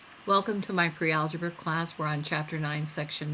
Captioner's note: voiceover